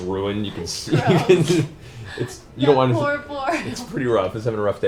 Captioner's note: laughs